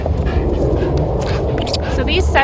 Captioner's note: dog panting